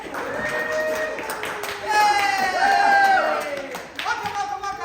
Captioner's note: applause